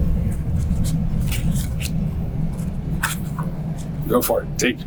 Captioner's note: peeling of tin